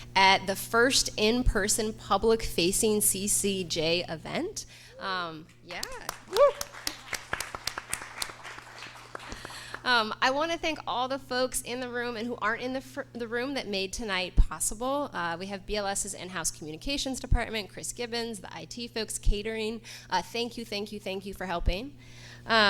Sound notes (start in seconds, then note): 5.8 audience applauds and cheers; 5.8 audience member cheers